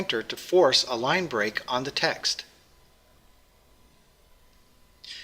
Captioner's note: pause